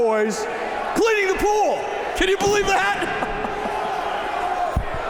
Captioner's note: chuckles